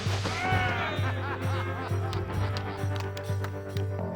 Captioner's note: whooping; cheering and laughing